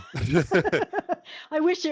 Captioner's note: laughs